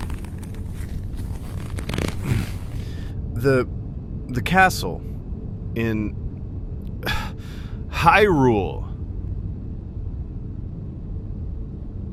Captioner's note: choke